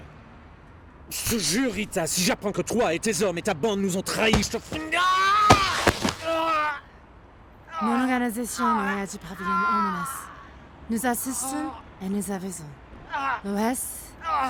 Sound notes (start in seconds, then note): 0.2 man speaking in foreign language; 5.6 man grunting; 8.2 Michiko speaking in foreign language